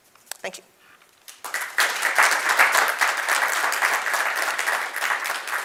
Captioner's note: audience clapping